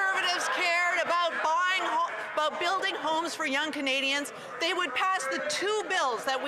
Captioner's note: some Applause